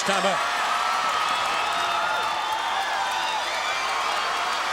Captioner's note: crowd cheering